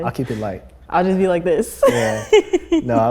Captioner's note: laughs